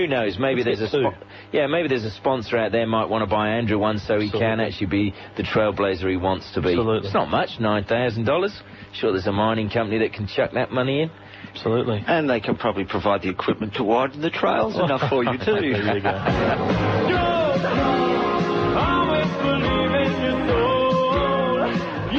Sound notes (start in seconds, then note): 14.6 group laugh